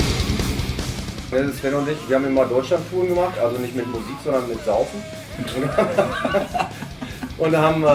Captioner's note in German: lachen